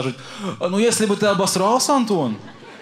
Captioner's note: with russian accent